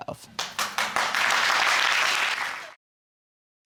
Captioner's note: applause